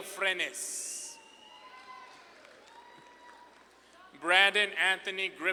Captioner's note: audience claps and cheers